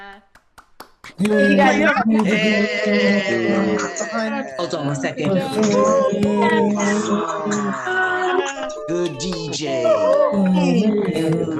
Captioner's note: cheering